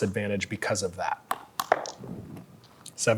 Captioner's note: dice rolling